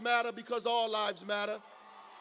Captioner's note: cheers and applause